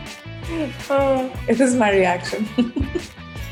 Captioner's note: energetic pop music; laughing